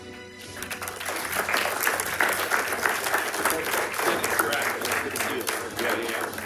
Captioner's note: audience and participants applauding